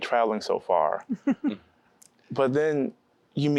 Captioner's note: giggling